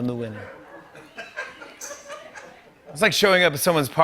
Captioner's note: laughter